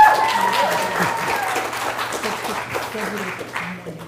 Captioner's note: cheer and Applause